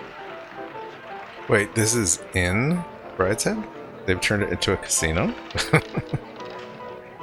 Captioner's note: chuckling